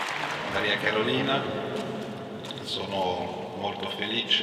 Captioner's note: speaks in Italian